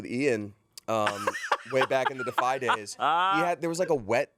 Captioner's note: laughing